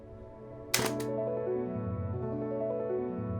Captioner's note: gentle upbeat music; camera clicks